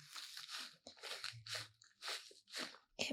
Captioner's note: spongey sounds